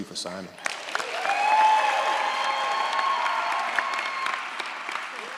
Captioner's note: audience applauds & cheers